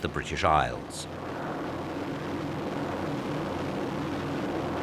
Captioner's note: planes roaring